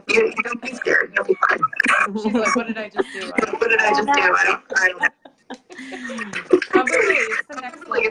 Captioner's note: laughing